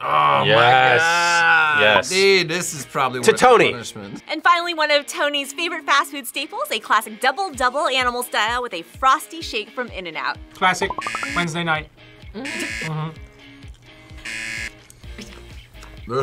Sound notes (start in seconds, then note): 14.2 buzzer